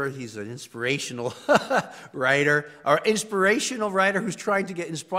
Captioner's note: laugh